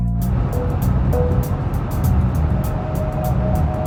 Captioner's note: car driving